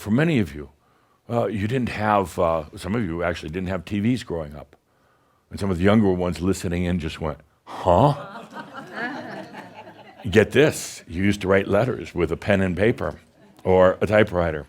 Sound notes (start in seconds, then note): 7.8 some chuckles